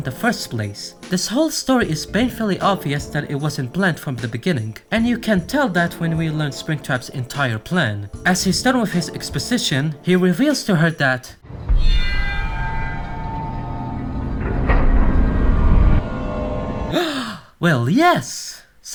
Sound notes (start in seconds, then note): 16.9 gasp!